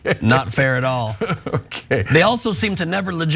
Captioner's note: laugh